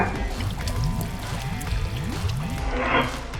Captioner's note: pan scraping; water burbling; pan scrapes